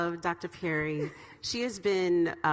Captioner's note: laughs